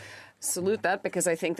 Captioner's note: speaking French